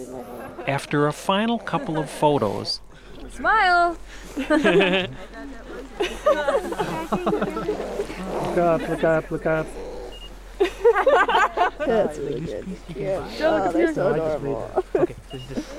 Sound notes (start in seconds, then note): 4.0 laughter in background